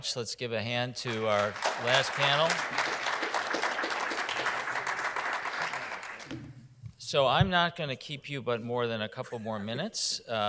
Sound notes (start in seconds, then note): 2.6 applause